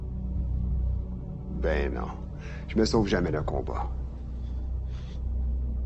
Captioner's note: LaFleur speaking French